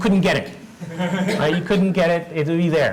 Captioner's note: laugh